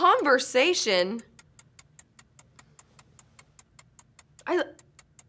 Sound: clock ticking

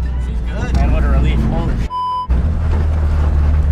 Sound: beep

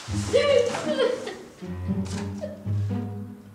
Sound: crying

